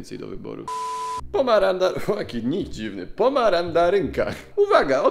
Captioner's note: laughs